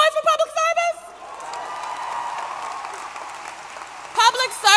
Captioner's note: applause